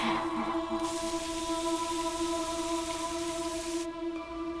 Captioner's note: rain falling; soft music